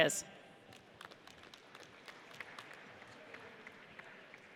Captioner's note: audience applauds